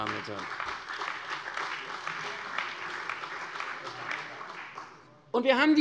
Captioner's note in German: Beifall bei der CDU und dem BÜNDNIS 90/DIE GRÜNEN